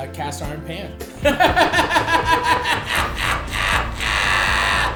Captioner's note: Matty laughs